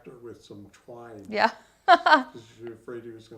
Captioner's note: chuckles